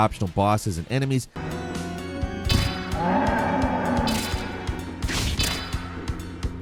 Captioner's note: monster groans; upbeat ambient music